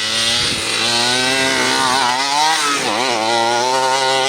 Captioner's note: truck engine revving